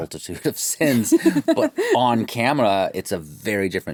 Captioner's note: chuckles